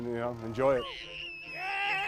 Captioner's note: child screaming